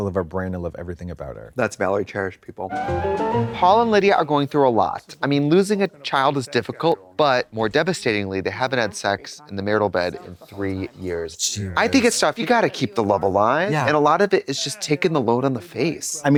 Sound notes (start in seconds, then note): 2.7 bright chime